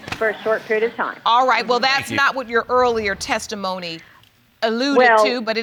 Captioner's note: audience chuckling